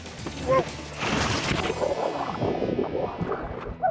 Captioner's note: splash